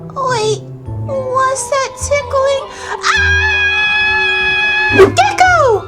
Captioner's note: screams